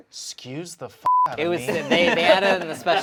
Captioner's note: beep